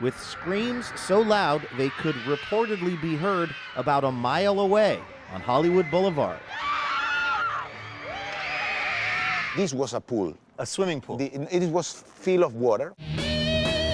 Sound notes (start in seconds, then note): 7.1 people screaming; 13.0 rock music